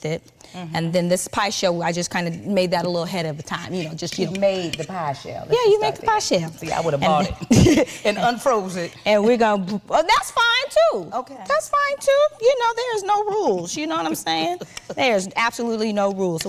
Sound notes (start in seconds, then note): 7.3 chuckling; 14.2 Wendy chuckling